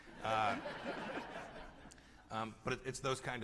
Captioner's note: laughter